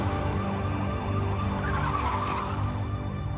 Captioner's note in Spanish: sirenas